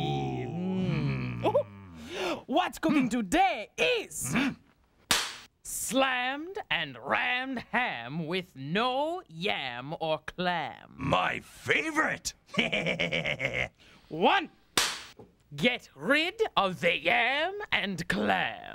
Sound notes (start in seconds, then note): 4.6 Cleo cracks pointer; 12.5 chuckles; 13.9 cracks pointer